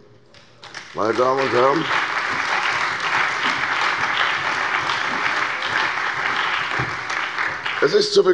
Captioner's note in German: Beifall bei der CDU, dem BÜNDNIS 90/DIE GRÜNEN, der SPD und der FDP